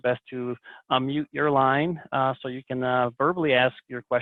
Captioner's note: none